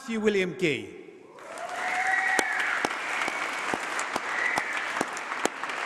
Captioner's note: applause